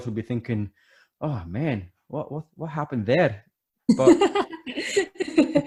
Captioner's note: laughing